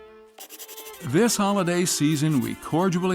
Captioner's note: voice-over